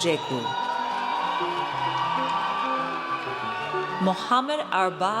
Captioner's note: audience cheers